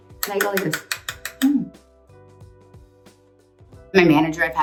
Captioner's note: brush tapping; gentle music